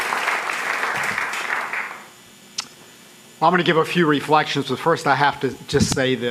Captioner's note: applause